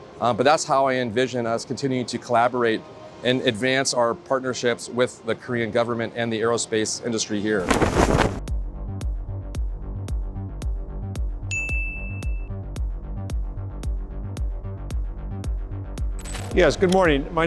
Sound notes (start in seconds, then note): 10.2 upbeat music; 11.5 bell dinging